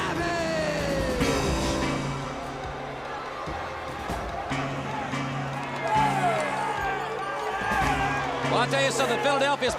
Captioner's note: crowd chatter